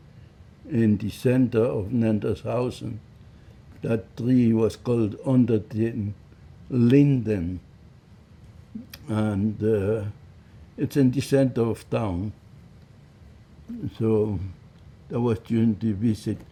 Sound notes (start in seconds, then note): 6.7 german